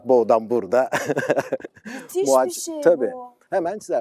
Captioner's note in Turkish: kahkaha